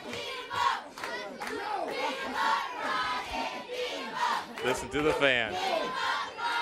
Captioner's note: crowd cheering